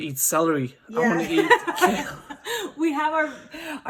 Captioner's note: laughs